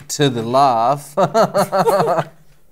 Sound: laughs

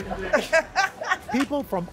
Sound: laughter

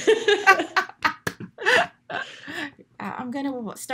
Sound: group laughs

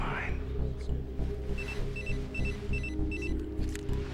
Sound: ringtone

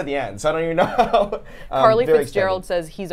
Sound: laughs

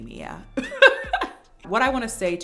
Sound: laughs

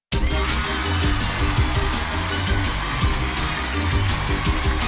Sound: cheers and applause; zany music

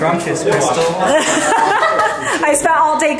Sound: laughs

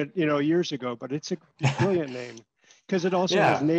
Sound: laughter

